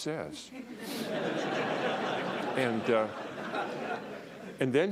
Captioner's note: laughter